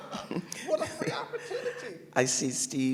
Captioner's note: laughter